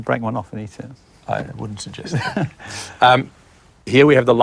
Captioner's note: laughs